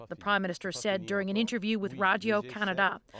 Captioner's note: speaking French